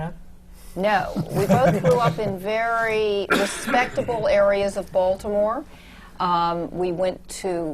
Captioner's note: laughter